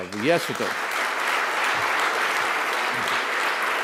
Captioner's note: applause